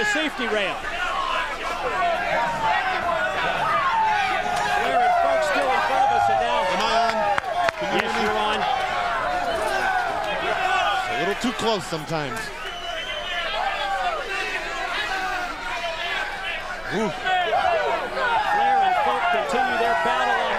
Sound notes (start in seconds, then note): 12.8 crowd chatter